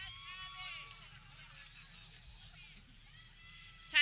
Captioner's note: people cheering